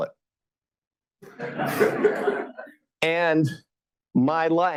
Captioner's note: laughter